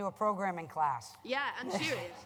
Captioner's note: laughter